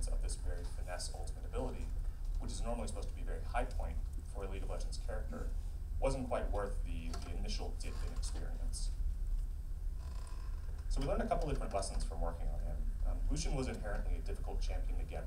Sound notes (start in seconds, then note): none